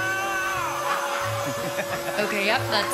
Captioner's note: laughter